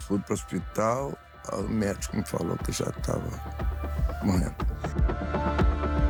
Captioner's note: voice breaking